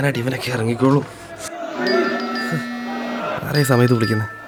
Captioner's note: phone ringing